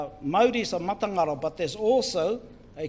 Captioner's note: foreign Language